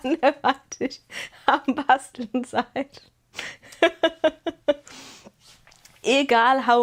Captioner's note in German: gelächter